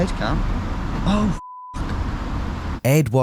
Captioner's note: beep